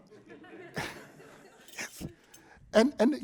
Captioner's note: laughter